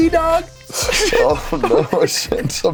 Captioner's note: both laugh